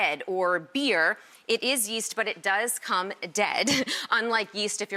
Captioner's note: laughs